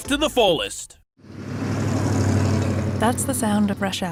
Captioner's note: sound of motor